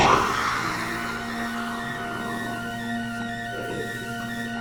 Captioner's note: snake hissing